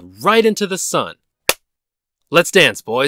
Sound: clap

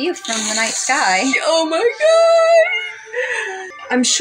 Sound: snicker

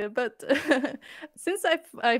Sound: laughter

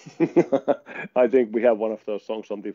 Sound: laughing

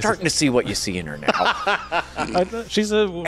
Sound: laughing

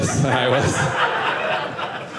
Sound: audience laughing

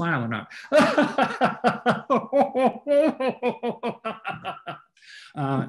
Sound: laughing

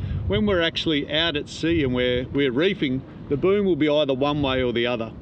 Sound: none

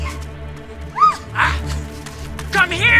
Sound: Julia screams

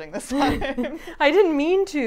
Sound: laughing

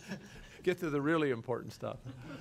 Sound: laughing

